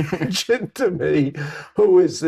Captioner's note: laughter